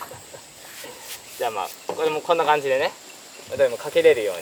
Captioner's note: laughs